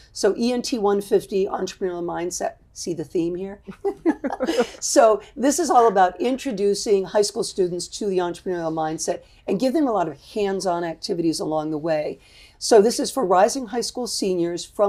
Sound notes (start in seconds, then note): 3.7 laughs